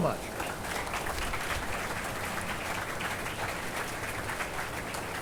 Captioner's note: attendees applauding